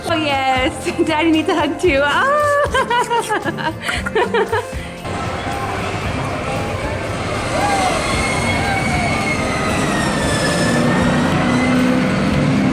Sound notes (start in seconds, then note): 2.2 laughs; 7.6 rollercoaster roars